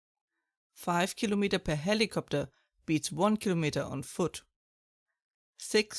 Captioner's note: German